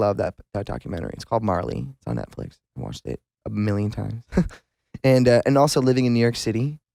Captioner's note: laughs